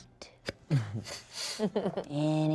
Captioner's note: laughs